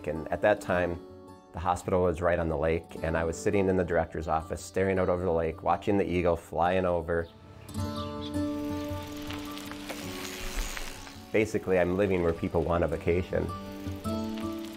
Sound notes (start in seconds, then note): 7.1 birds chirping; 8.5 bicycle gear clicking